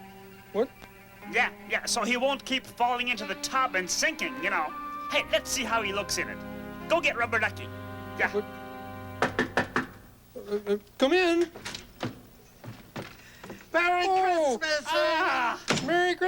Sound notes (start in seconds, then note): 9.2 knock on door